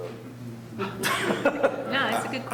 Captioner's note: group laughing